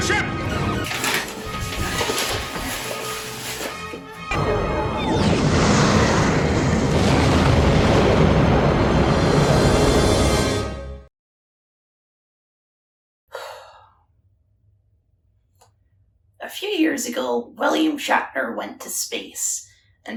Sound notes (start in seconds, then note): 4.3 explosion